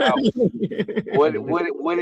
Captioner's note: laughing